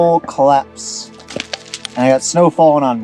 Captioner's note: snow jingling